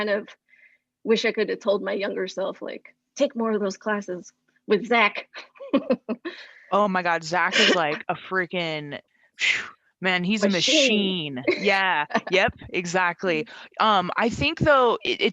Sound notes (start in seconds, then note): 7.5 laughs; 8.9 whooshing noise